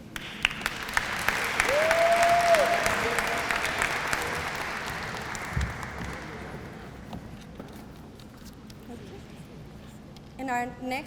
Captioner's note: applause